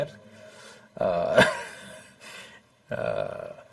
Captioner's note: laughs